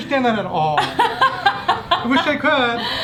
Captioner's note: laughing